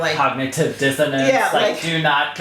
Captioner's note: robot Voice